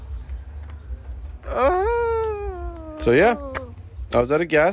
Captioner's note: unidentifiable groans